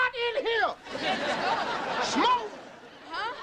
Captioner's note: audience laughing